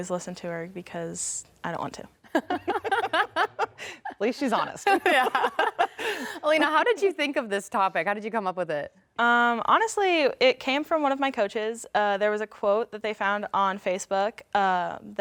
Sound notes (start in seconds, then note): 2.3 laughs